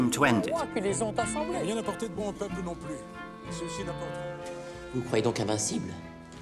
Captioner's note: bright music; men speaking in French